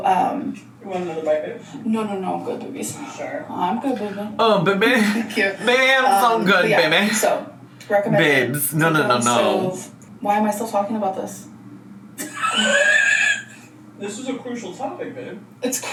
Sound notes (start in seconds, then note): 12.2 laughs